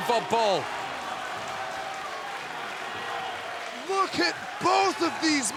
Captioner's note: crowd cheering